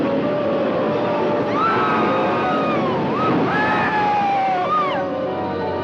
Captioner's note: suspenseful music; roller coaster rattling; people screaming; suspenseful music